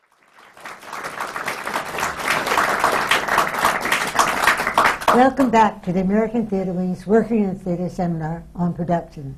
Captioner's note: applause